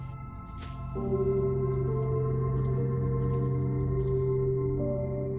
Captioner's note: necklace jangling